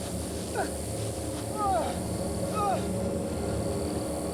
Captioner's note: moans